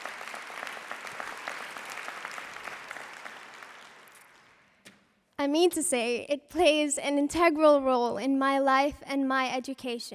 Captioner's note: applause